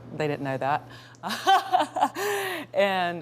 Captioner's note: laughing